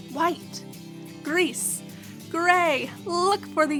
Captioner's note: speaking in foreign language